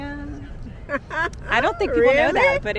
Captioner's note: mom laughing